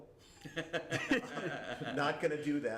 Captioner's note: laughter